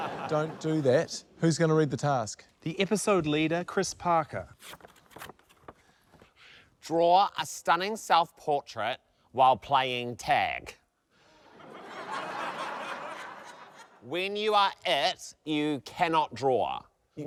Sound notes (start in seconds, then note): 0.0 laughter; 11.4 laughter